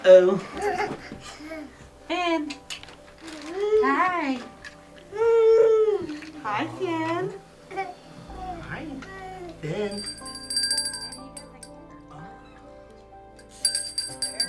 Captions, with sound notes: Finn! Hi! Hi Finn! [Bell Rings]